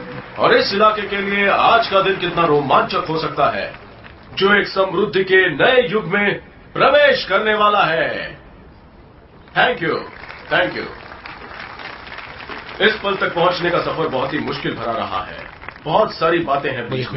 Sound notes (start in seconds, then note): 7.9 people applauding